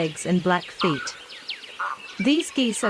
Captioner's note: cape barren sound